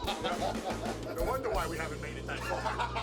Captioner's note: laugh